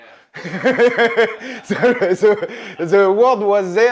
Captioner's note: laughs